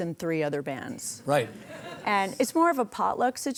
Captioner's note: audience laughing